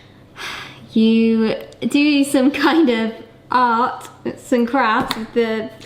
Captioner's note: sighs